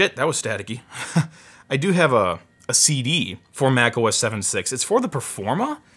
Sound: chuckles

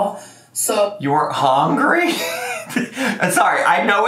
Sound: laughing

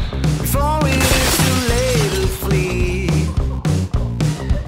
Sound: glass breaking

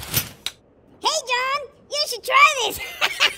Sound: high pitched; high pitched laughing

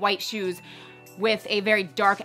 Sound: chiming

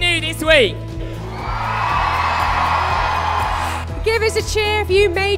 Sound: cheering

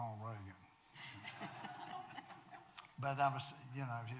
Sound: audience laughing

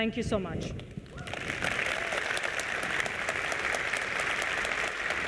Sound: applause

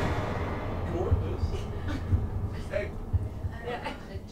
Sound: dramatic music; heart beating

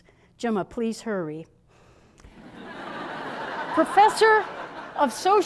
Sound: laughter

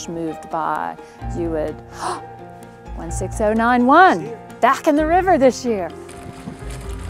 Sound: gasp

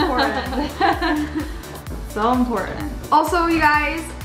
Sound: laughter; laughs

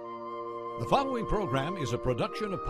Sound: voiceover

